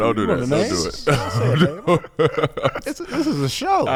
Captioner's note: laughing